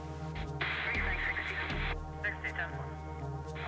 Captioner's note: police radio chatter